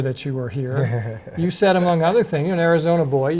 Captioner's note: chuckles